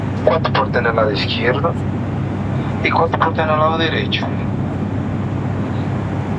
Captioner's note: speaking portuguese